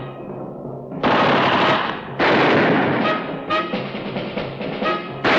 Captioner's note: guns firing